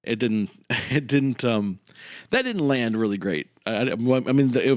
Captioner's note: laughs